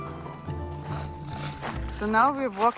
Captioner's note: rocks crunching underfoot